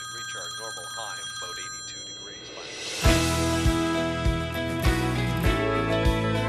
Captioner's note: phone ringing